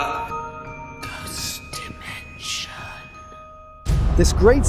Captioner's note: whispering Voice